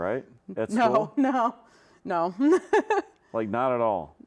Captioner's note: laughs